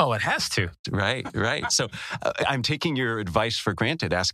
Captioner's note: laugh